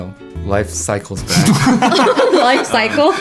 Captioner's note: group laughing together